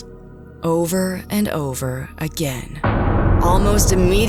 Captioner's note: door slams